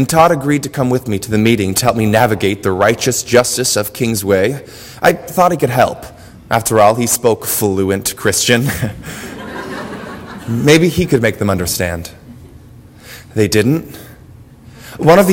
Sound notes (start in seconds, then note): 8.7 laugh; 8.7 audience laughter